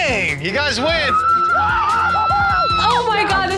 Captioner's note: cheer